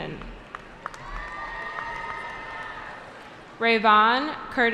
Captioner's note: cheering